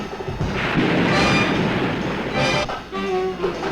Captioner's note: waves crashing